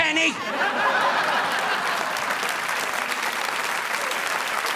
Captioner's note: audience laughing